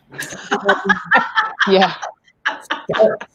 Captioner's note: laughing